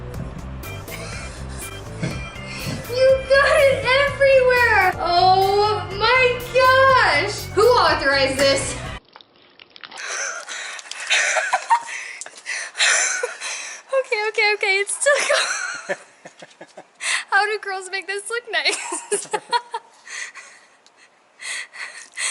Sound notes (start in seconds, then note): 8.4 water spilling; 10.8 laughing; 18.8 laughing